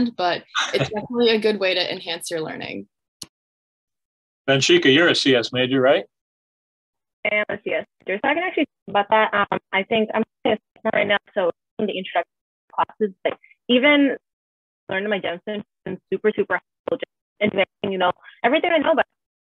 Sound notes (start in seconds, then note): 7.3 distorted audio